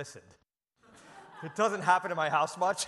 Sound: audience laughs

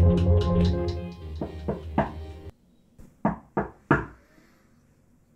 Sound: door knocks

